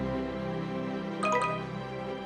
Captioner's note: notification Sound